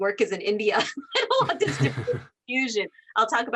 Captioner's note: laughing